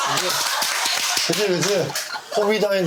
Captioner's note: clapping out of laughter